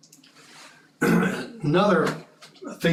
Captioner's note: cough